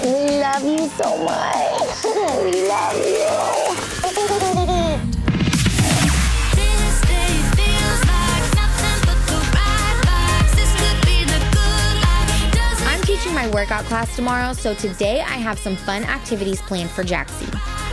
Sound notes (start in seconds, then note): 4.1 laughing